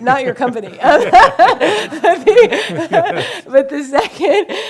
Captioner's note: laughing